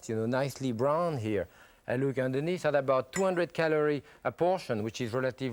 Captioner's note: none